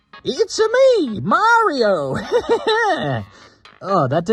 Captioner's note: stupid laugh